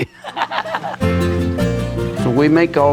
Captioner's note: laughs